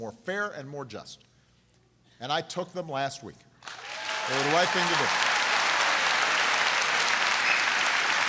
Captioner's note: applause